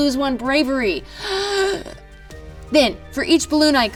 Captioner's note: gasps